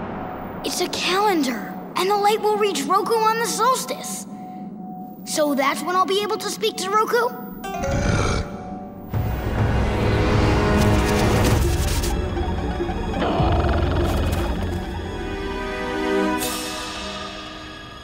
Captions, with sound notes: It's a calendar, and the light will reach Roku on the solstice. So that's when I'll be able to speak to Roku? [grunting]